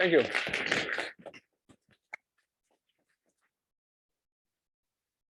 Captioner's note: applause